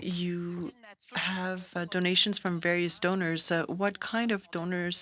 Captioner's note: speaking French